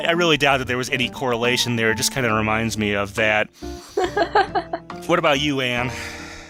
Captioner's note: laughs